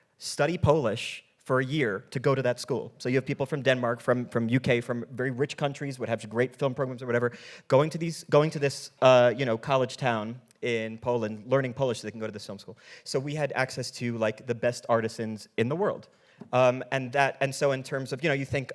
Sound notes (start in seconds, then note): none